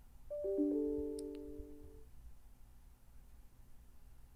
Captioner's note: light chime tones